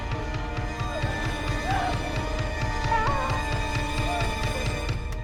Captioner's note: thunder cracking